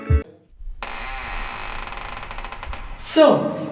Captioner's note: door creaks